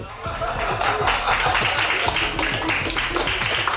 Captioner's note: crew clapping